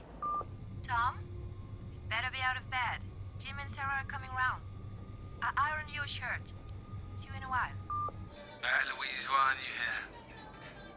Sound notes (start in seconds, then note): 0.2 beep; 7.8 beep; 10.0 bar music